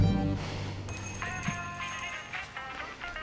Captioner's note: doorbell jingles, drucinda sighs; cell phone rings; running footsteps